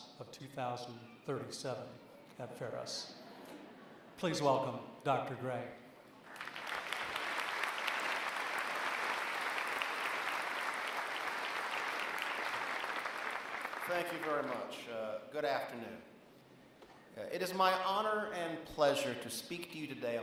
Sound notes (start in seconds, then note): 6.2 applause